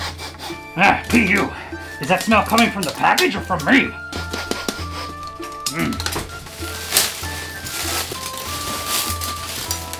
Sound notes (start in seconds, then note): 0.0 sniffs; 4.1 sniffs; 7.3 plastic wrap unwrapping